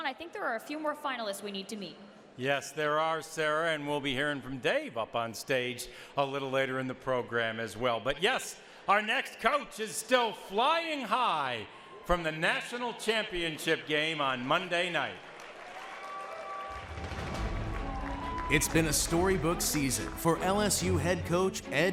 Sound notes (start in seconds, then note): 14.5 audience applauds; 16.8 upbeat music